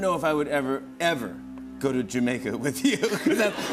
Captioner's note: laughter